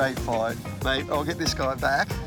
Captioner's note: water splashing